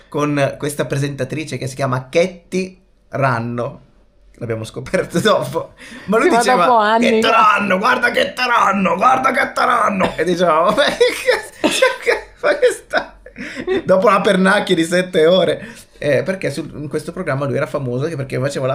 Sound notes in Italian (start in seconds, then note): 10.6 risate